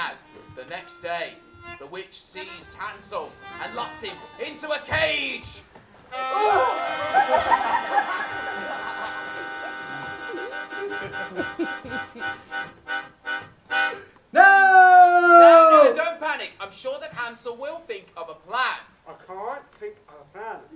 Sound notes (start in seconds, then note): 6.0 scream